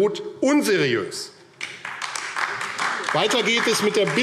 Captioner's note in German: Beifall AfD